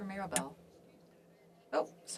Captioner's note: speaking French